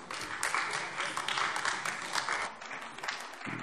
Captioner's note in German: Beifall AfD